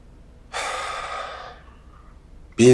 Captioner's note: sighs